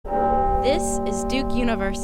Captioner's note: bell ringing